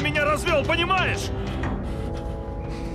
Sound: exhales

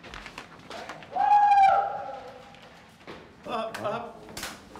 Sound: cheering

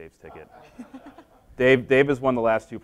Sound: laughing

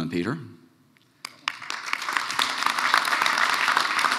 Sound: applause

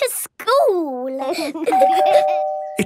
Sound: door bell ringing

